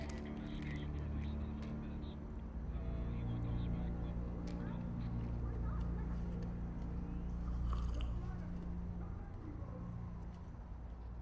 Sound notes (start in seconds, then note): 7.6 Karasic sipping